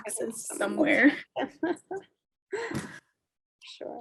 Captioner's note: chuckling